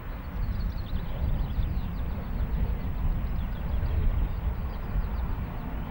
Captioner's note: train passing